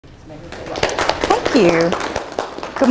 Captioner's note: audience applauds